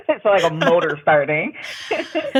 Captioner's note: imitates dial up tone